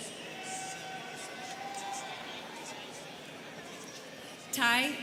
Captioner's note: students cheering